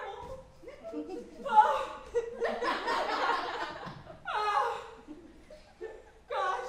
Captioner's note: groans; audience chuckles